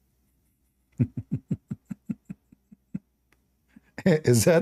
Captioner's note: Ketawa